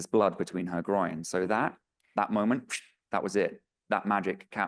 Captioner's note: imitates whooshing